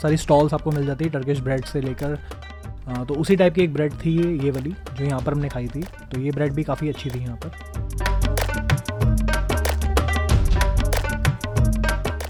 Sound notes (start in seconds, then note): 5.3 Turkish